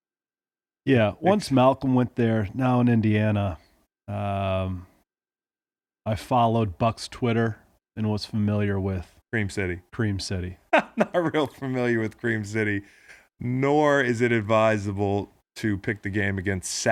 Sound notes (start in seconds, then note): 10.7 laughing